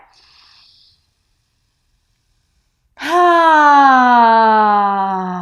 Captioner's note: sighs loudly